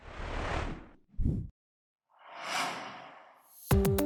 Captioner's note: swooshing